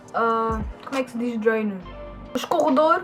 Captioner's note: in portuguese